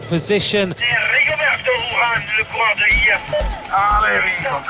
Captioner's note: man speaking foreign language over mic